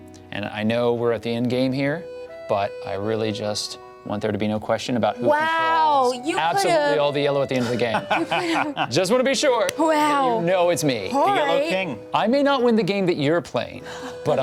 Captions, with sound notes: And I know we're at the endgame here, but I really just want there to be no question about who controls-- - Wow. - Absolutely all the yellow at the end of the game. (laughs) Just want to be sure that you know it's me. - All right. - I may not win the game that you're playing